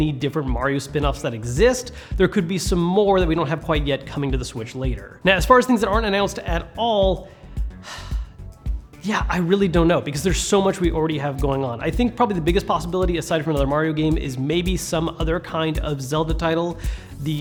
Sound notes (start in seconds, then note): 7.6 sighs